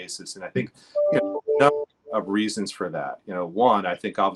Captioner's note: computer chimes